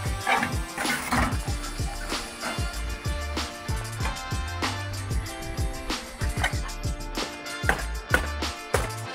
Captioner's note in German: kratzen; klappern